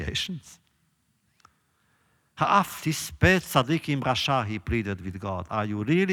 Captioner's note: laughs